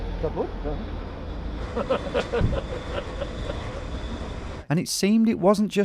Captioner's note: laughs